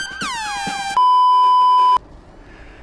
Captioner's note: Kill Bill Sirens continue; bweep. yoop. bweep. yoop; Kill Bill Sirens continue but it's barely audible At All